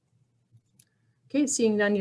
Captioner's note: silence